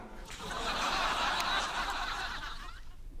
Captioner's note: laughter